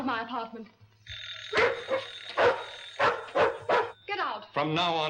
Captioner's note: dog barks; phone rings